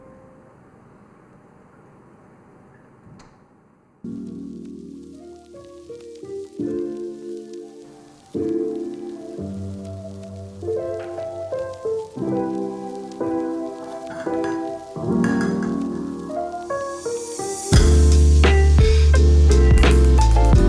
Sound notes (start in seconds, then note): 17.8 satisfying plonk